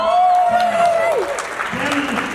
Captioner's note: applause